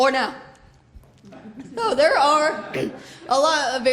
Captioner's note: laughter